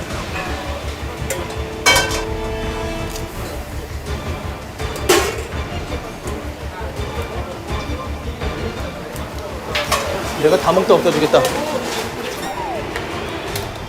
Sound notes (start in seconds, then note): 12.4 chuckling